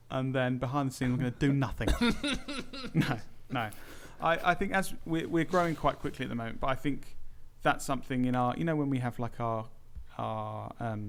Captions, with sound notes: And then behind the scene I'm going to do NOTHING *laughs* No No I think as we're growing quite quickly at the moment but I think that's something in our You know when we have like our our